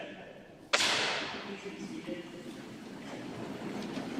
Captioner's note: sounding gavel